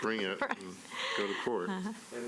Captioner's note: laughter